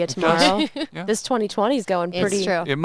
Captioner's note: laughs